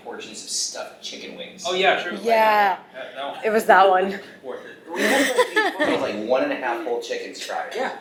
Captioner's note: laughing